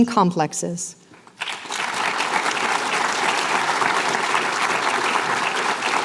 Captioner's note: applause